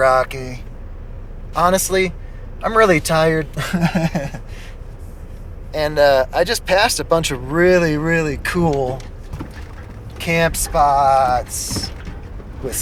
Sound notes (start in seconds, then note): 7.5 laughs